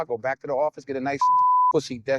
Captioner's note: beep